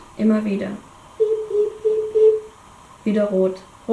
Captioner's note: beep, beep, beep, beep